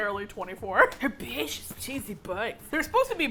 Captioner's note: whispering with enthusiasm